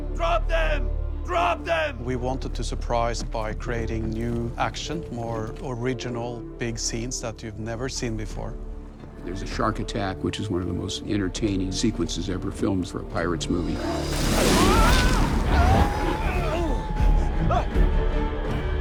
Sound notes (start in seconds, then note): 13.8 henry screams; 15.4 both grunt